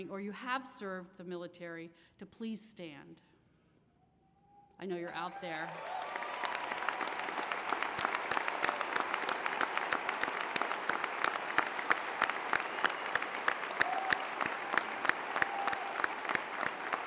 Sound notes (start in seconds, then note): 6.1 cheers; 11.7 applause